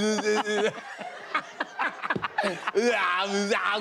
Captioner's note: laughter